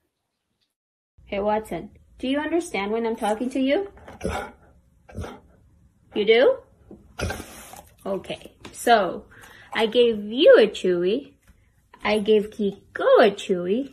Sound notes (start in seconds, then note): 4.2 woofs twice; 7.1 huffs